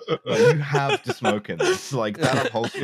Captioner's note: laughter